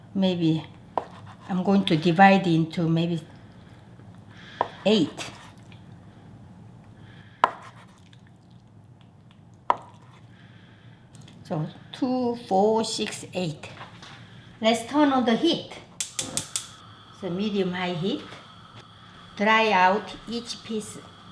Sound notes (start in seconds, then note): 7.8 knife taps; 16.0 igniter clicking